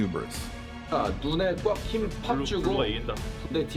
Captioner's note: Multiple people speaking Korean in T1's pre-game huddle